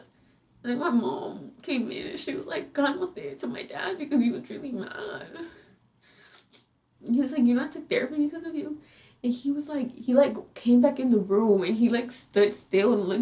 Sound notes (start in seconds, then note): 2.9 speaks in foreign language; 6.5 sobbing